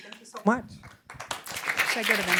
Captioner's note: applause